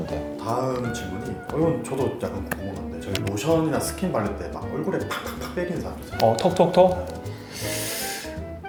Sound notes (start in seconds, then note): 5.9 smack smack smack